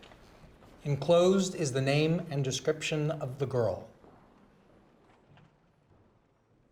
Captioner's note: none